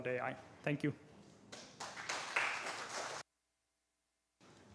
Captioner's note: applause